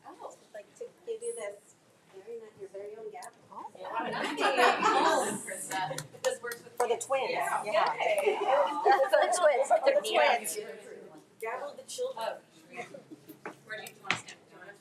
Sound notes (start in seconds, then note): 2.2 speaks faintly